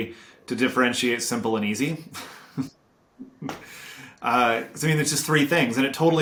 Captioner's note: chuckles